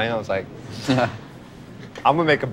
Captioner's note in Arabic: ضحك